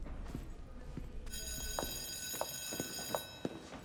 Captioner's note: bell ringing